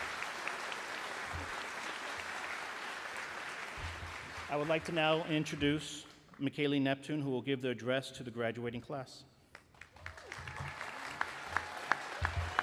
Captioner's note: applause